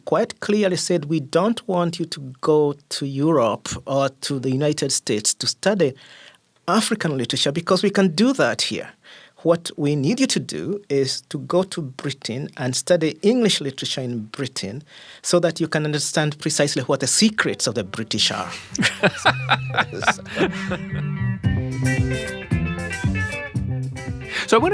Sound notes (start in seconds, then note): 18.2 laughing; 21.7 upbeat music